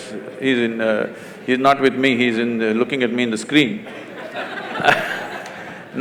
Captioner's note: laughter